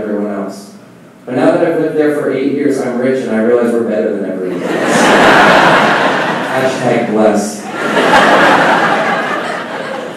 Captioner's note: laughing